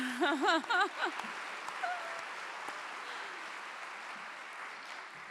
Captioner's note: laughing; clapping